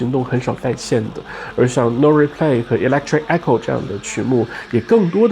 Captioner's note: electric Echo